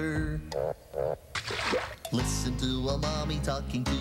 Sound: croak croak--splash

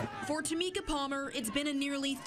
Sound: NAT- protest/chant

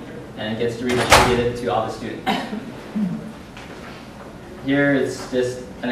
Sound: loud bang drowns out speaker

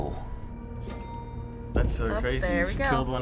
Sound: elevator dinging

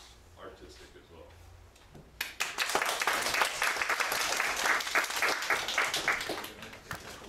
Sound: audience applauding

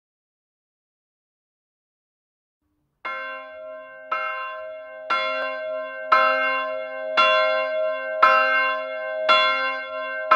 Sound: sound of church bell

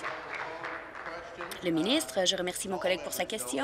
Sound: applause

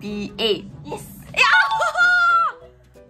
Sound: exclaims

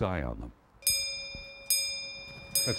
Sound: bell rings

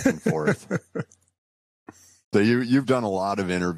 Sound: laughs

